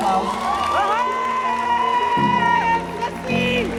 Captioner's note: cheers